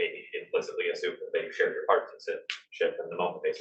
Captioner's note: speaking faintly